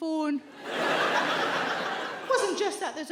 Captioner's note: audience laughs